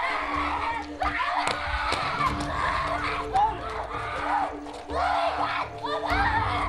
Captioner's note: crying and screaming